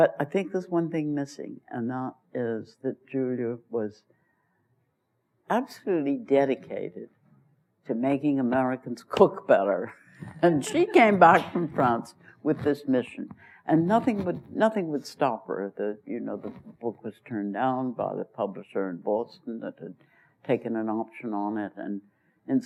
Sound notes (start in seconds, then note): 10.3 laughs; 10.4 laughter